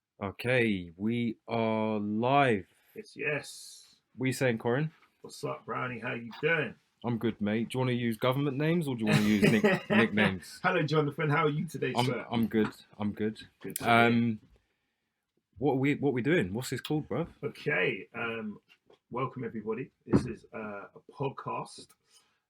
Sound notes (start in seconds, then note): 9.0 laughs